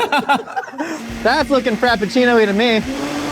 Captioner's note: laughter; blender whirring